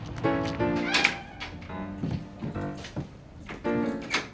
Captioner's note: door opening; downtempo piano